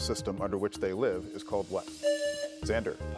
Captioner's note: buzzer buzzing